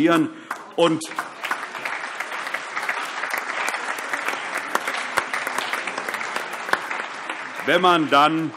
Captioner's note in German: Allgemeiner Beifall